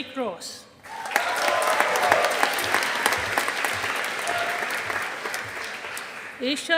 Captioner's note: audience applauding